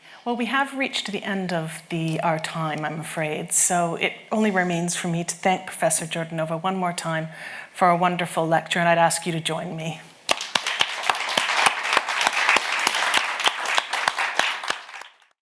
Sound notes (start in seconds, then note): 10.2 audience and host clapping